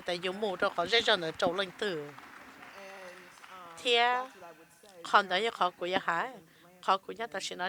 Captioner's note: applause